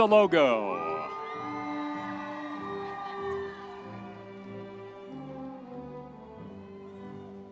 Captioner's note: audience cheering; triumphant music